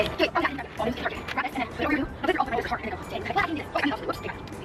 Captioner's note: fast chattering